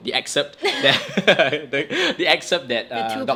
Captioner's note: both laugh